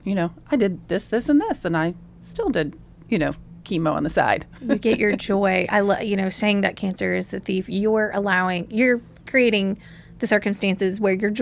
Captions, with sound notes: You know, I did this, this, and this, and I still did, you know, chemo on the side. [laughs] You get your joy. I lo- you know, saying that cancer is a thief, you're allowing... You're creating the circumstances where your